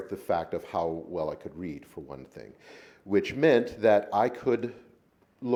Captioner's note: none